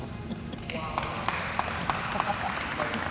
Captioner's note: clapping